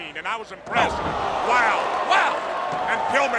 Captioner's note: crowd clamoring; body thudding